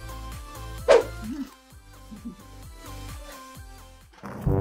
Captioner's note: chuckles